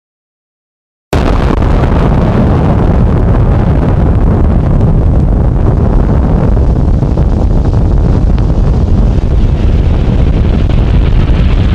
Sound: explosion

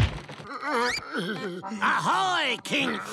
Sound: groaning

